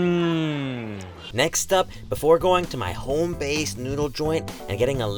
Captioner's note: voiceover